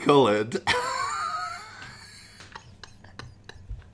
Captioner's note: laughing